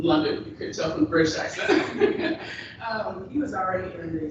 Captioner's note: chuckles